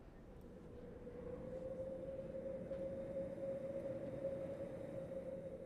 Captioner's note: mimics wind swooshing